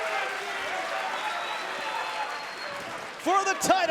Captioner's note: crowd cheering